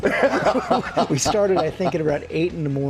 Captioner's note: laughter